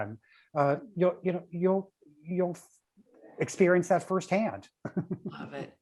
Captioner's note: chuckles